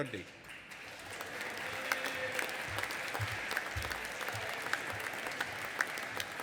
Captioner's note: audience applauding and cheering